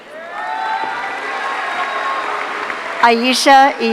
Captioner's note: audience cheering